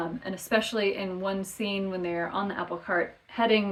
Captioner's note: none